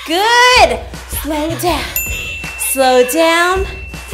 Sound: bell dings

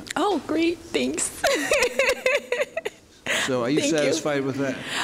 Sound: laughing

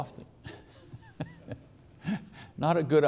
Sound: all laughing

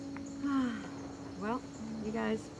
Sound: sighs

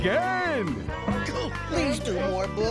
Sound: groans

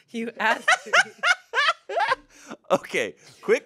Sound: laughs

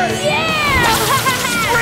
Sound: laughing

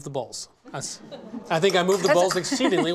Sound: laughter

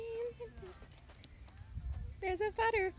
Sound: footsteps

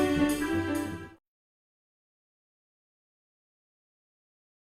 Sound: silence

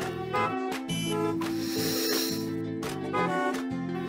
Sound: sniffs doll's hair deeply

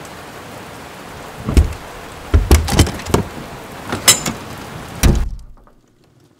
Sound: key in a lock. Door opens and closes

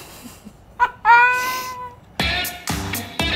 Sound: laughs

